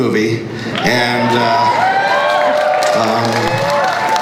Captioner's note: crowd cheers and applauds